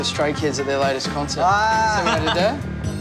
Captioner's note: laughs